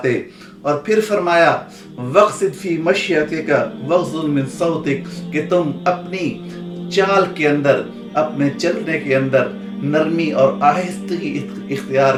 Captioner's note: Arabic